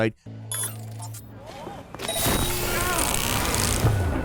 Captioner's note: machinery beeping